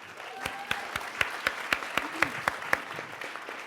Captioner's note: applause